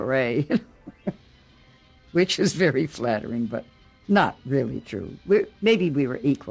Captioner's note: chuckles